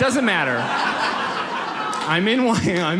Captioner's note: audience laughs